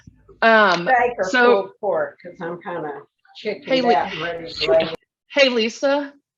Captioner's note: speaking softly